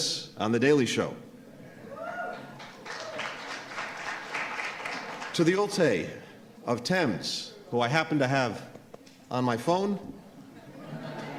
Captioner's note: applause